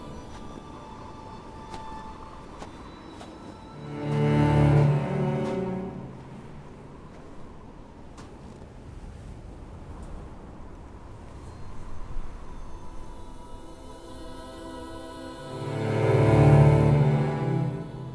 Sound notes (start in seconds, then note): 3.9 footsteps thudding; 3.9 suspenseful music; 15.0 suspenseful music